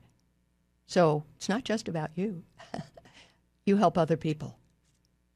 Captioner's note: laughs